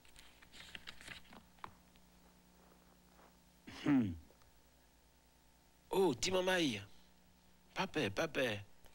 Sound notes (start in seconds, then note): 3.6 satisfied sigh; 4.8 speaking French Creole